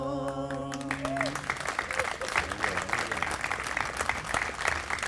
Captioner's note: group applauding